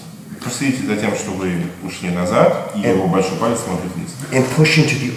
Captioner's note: speaking in a foreign language